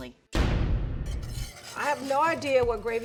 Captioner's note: banging